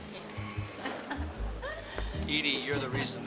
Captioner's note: gentle jazzy music; chuckling